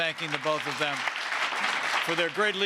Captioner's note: applause